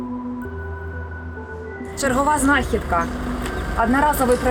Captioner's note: reading the inscription on the package, in Russian